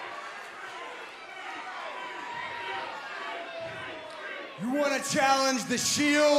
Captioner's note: crowd cheering